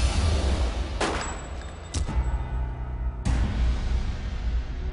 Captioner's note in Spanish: Disparo